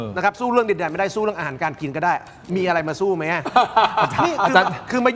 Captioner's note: laughs